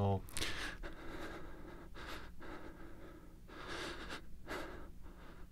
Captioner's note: shaky breathing plays